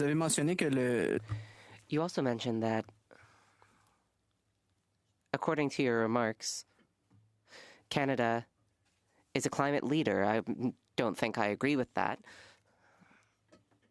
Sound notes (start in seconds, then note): 4.9 speaking French